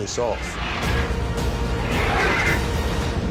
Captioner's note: drogon roars